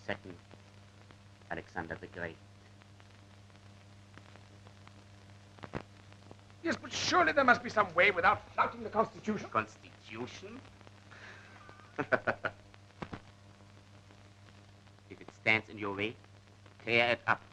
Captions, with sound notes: The second, Alexander the great. - Yes, but surely there must be some way without touching the constitution. - Constitution,(laughs). If it stands in your way, tear it up.